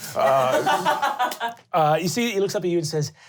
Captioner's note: laughing